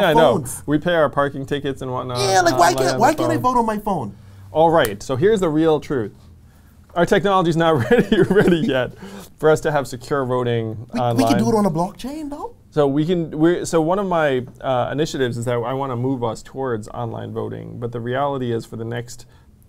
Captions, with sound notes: - Yeah, I know, we pay our parking tickets and whatnot already on our phone.- - Yeah! Why can't, like why can't I vote on my phone? - All right, so here's the real truth. Our technologies not really ready yet (laughs) for us to have secure voting online. - We could do it on a blockchain, though. - So, one of my initiatives is that I want to move us towards online voting but the reality is for the next